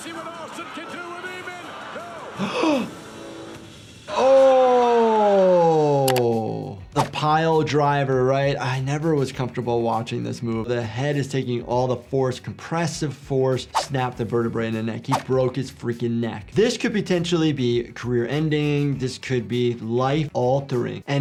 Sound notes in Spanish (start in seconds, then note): 2.4 el doctor jadea